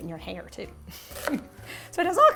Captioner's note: giggling